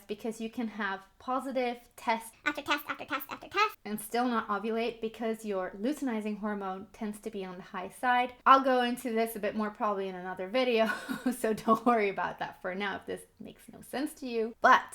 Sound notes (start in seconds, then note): 2.3 in high-pitched, high speed voice; 10.9 chuckles